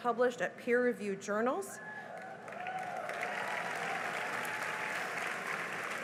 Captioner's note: cheering and applause